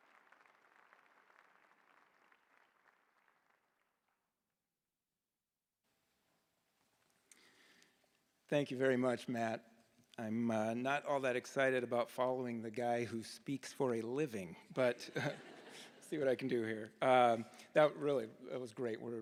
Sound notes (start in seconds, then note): 0.0 cheers and Applause